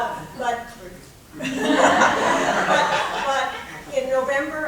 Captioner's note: laughing